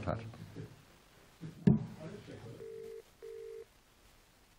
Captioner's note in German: Wartzeichen des Telefons; Wartezeichen des Telefons